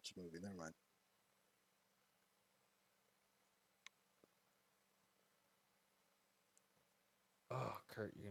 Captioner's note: stunned silence